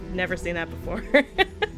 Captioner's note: laughs